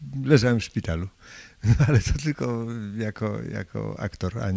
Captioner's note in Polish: śmiech